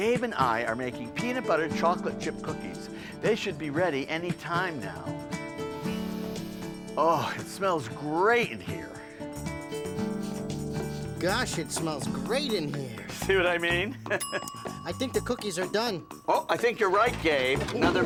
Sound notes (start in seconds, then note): 5.6 inhales; 9.6 sniffing; 13.9 chuckles; 14.2 oven bell dings